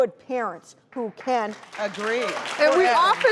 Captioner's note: applause